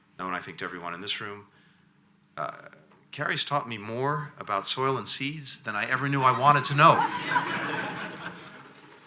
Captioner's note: laughter